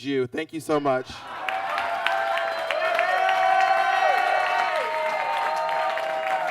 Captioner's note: audience claps and cheers